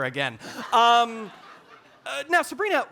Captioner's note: audience laughing